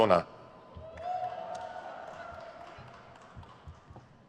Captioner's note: crowd cheers